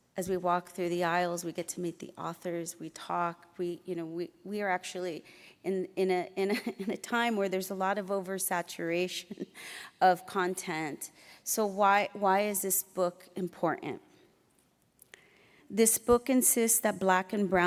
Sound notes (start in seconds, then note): none